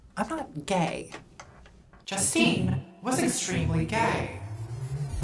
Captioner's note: disembodied voice